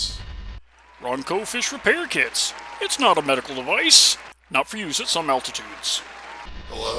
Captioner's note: applause starts skipping